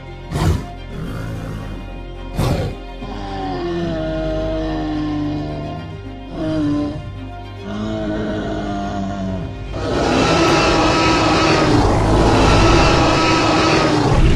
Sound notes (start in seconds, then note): 1.2 triceratops sounds; 10.3 T--rex roars